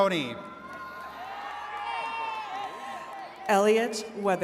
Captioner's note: attendees cheering